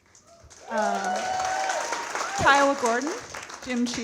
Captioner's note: audience cheering and clapping